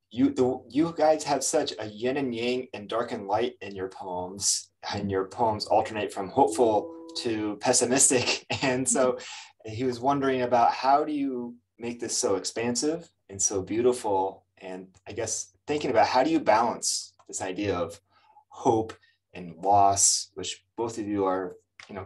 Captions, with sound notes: "You guys have such a yin and yang and dark and light in your poems, and your poems alternate from hopeful to pessimistic." [chuckles] And so he was wondering about how do you make this so expansive and so beautiful, and I guess thinking about how do you balance this idea of hope and loss, which both of you are